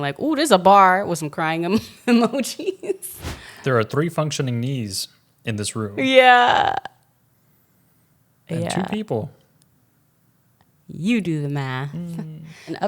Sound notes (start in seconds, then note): 1.7 laughs